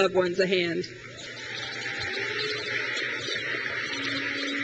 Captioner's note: graduates cheer